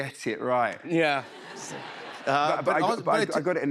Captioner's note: laughter